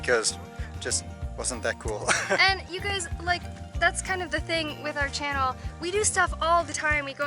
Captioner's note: laughter